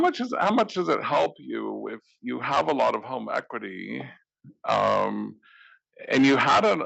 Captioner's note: laugh